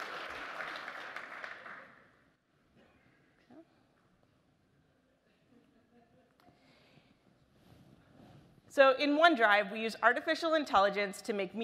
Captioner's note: applause